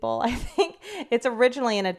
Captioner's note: laughs